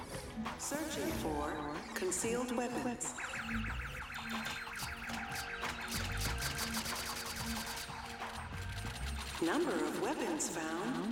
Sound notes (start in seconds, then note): 3.2 machine beeping